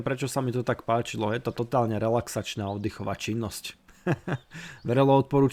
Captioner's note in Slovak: smiech